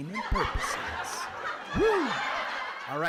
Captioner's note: audience laughs